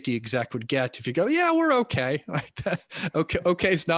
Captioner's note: chuckles